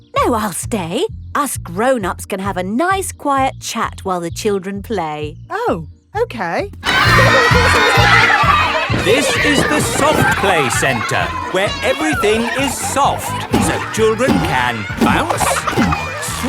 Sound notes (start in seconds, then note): 9.5 loudly over shouting